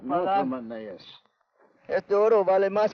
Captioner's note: Ben speaks foreign language